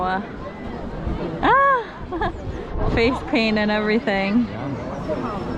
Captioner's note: giggle